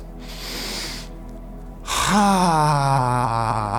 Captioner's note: inhaling